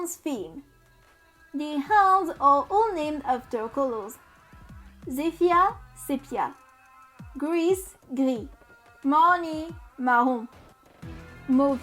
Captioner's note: french